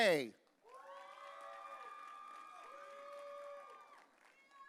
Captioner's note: audience cheering